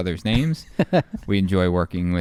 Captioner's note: laughing